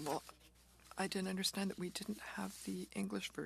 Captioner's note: speaking French